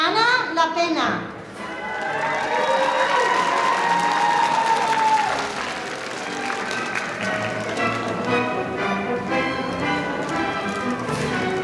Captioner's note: applause